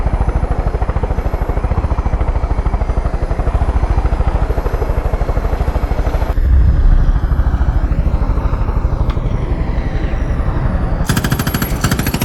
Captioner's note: helicopter whirring; gunfire